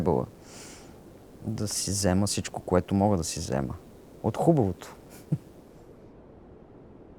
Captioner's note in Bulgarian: смее се